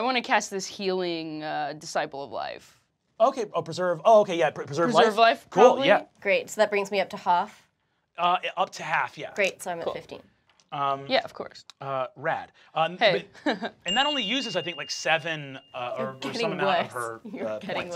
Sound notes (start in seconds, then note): 13.2 chuckles